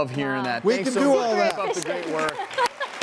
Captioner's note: applause